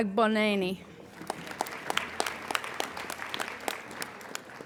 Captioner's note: applauding